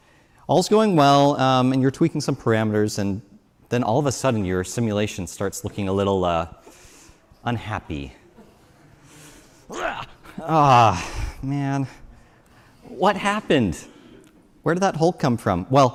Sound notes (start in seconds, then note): 9.6 groans